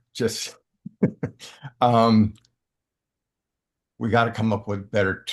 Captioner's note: laughing